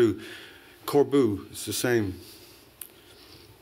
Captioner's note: non-english